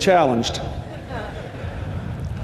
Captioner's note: laughter